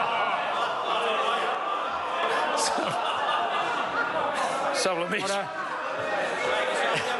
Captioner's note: members laugh